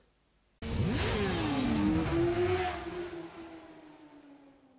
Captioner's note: engine roaring